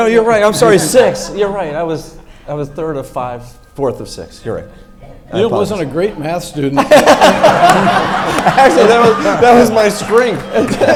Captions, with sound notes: No, you're right, I'm sorry, sixth, you're right. I was third of five, fourth of six, you're right. - You wasn't a great math student. (everyone laughs) - Actually, that was my strength.